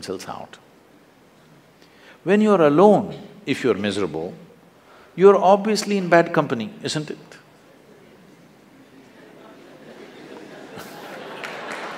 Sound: applause

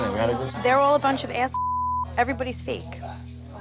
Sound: beep

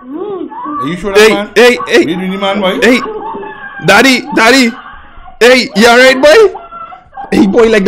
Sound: father and mother screaming in the background

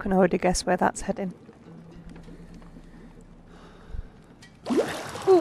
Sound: laughs

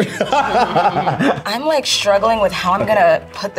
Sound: laughing

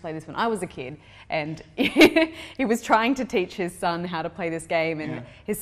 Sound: laugh

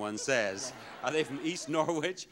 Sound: audience laughing

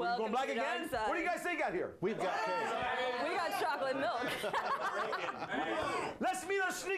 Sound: audience shouts answers

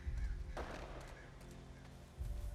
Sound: gunshot

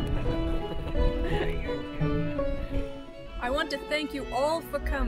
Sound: background conversations

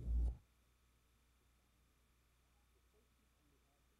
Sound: silence

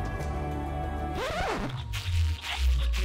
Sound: record scratches to stop; squeaking

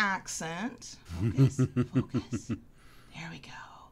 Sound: deep chuckle

